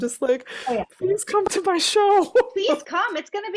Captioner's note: laughing